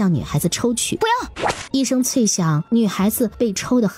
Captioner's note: crack!